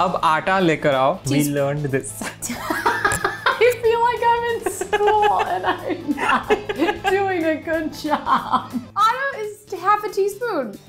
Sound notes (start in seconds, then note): 0.1 speaking in Hindi; 4.6 laughing